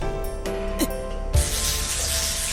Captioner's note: wince